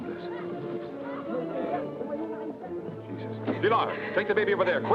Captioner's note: man prays quietly